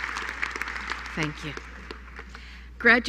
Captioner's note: applause